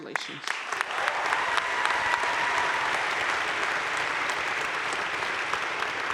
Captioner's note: crowd cheering and applauding